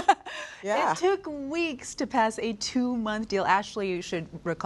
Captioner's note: laughs